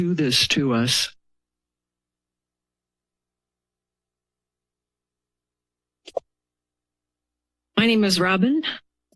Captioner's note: silence